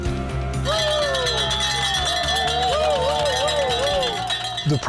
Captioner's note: people cheering; bells clanging